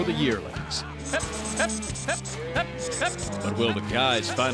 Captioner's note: mooing